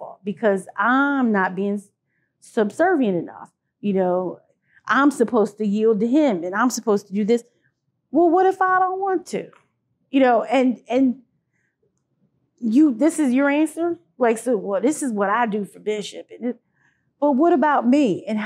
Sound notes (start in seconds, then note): none